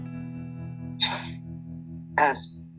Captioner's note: sniffing